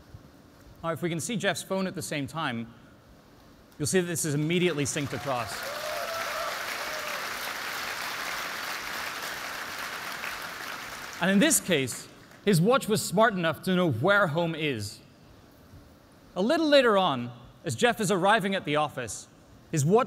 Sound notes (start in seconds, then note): 4.6 applause